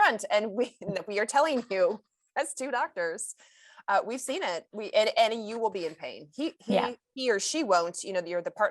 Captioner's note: chuckles